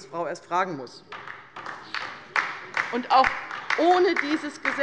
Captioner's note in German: Beifall bei der LINKEN